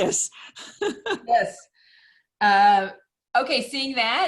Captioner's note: laughing